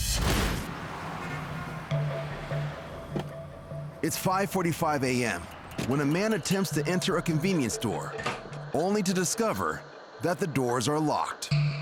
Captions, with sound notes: (car honking) (eerie music) >>It's 5:45 am, when a man attempts to enter a convenience store. Only to discover, that the doors are locked.